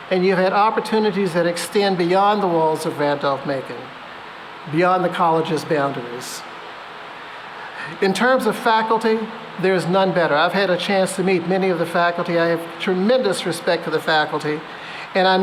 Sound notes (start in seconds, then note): none